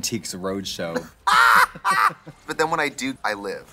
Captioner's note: Trixie laughs